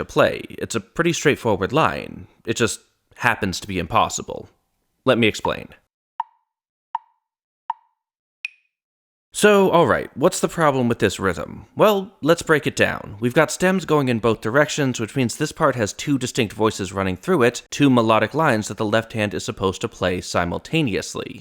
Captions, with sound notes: to play. it's a pretty straightforward line. it just happens to be impossible. let me explain. (tick, tick, tick, tick, tock) so, alright. what's the problem with this rhythm? well, let's break it down. we've got stems going in both directions, which means this part has two distinct voices running through it, two melodic lines that the left hand is supposed to play simultaneously.